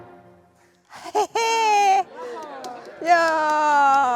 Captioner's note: exclamations of happiness, applause